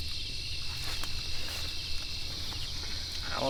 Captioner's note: crickets chirping